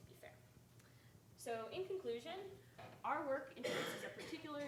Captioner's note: speaking faintly